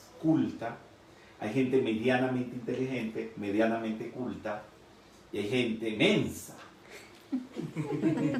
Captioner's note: laughing